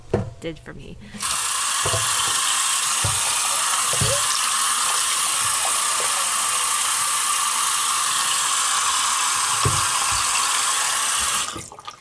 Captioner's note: faucet Running